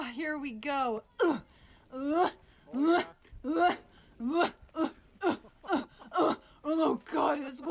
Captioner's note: grunting